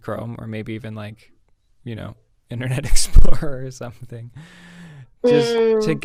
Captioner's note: laughs